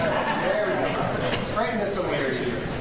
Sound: attendees chuckle

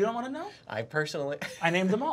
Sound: laughs

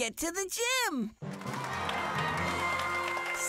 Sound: cheering

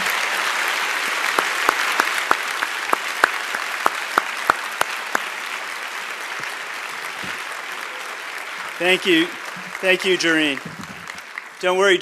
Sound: cheers and applause

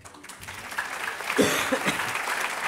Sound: applause

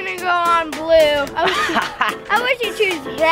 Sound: laughs

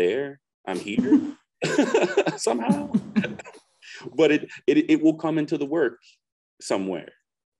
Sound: laughter

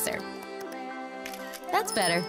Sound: shutter clicks

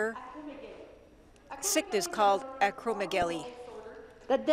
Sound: speaking French

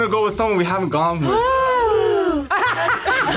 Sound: group gasps; laughs

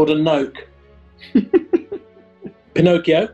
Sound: giggling

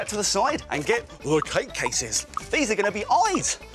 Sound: none

